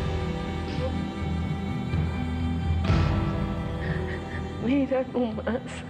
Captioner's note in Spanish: sollozos